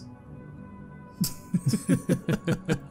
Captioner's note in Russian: смех Гриллби и Санса